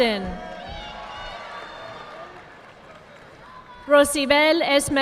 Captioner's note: audience clapping